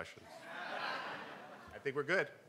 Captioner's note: crowd; laughing